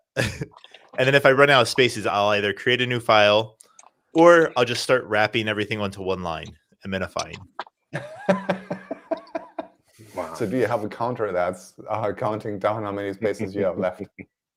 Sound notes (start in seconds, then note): 7.9 laughs